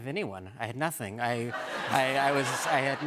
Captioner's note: laughter